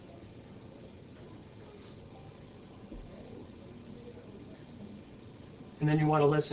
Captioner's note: silence